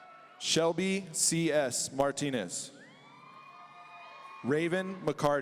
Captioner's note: audience cheering; audience cheering